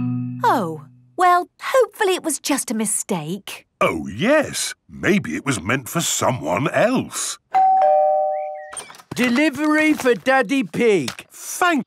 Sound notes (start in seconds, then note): 7.5 door bell ringing